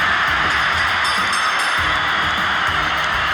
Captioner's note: bell dings; crowd cheering